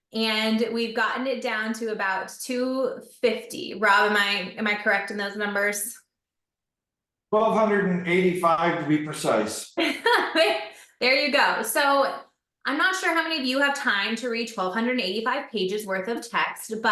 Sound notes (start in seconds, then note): 9.8 laughs